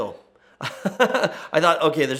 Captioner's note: laughs